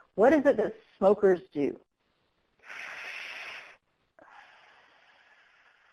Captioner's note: inhale; exhale; inhale